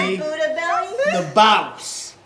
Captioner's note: students laughing and joking